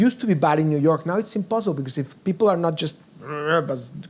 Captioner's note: growls